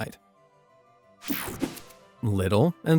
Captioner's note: logo whooshing